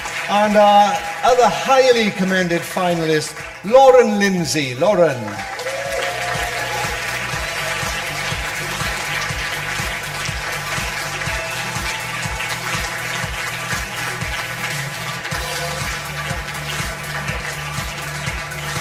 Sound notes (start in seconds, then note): 5.6 audience applause; 5.6 upbeat music